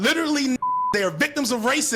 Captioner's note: beep